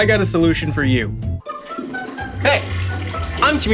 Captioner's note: toilet flushing